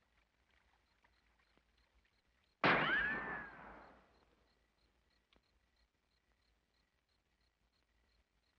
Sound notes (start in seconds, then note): 2.6 gun bangs; 3.4 crickets chirrup